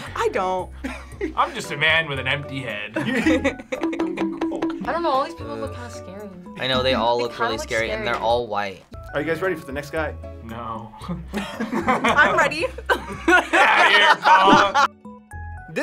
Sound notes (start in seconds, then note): 11.3 laughs